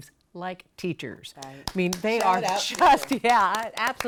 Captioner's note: clapping